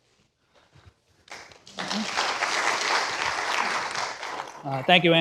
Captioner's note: applause